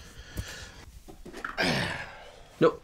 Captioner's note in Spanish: suspira